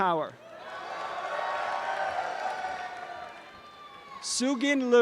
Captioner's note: audience cheering and applause